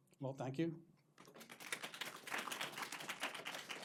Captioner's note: clapping